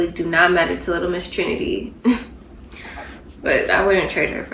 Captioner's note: giggles